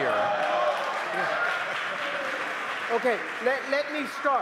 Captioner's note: applause